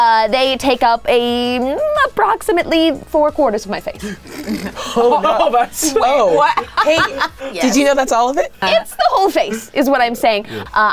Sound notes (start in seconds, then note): 4.0 group laughing; 7.1 laughs